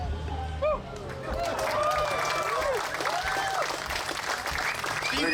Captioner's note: audience clapping